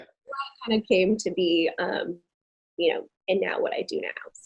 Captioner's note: audio distorting